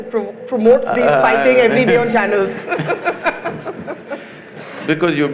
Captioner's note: laughter